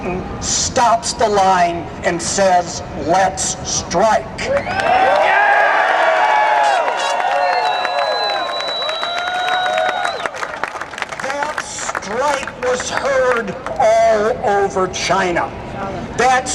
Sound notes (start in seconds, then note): 4.5 cheers and Applause